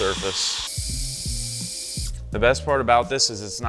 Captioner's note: high-speed drill humming